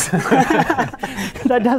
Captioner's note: laughter